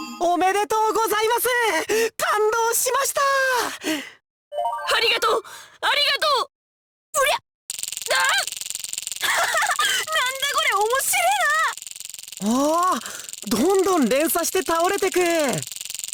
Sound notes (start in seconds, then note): 8.5 gasp; 9.2 laugh